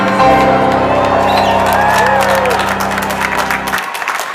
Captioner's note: crowd cheering